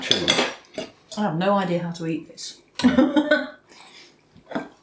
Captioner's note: laughs